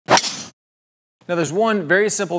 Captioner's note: club smacking golf ball